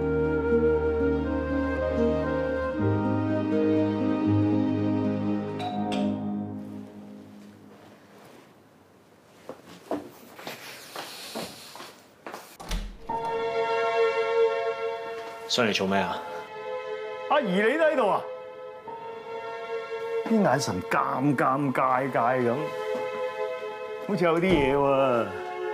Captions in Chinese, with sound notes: [溫馨音樂] [門鈴聲] 你來幹什麼？ 阿宜, 你也在？ 眼神那麼尷尬, 好像有點不對勁呢